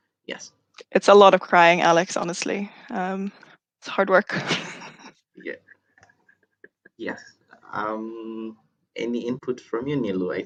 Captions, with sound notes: - It's a lot of crying, Alex, honestly. It's hard work. (laughs) - Yeah, any input from you Nilu?